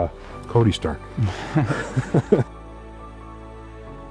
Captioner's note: laughs together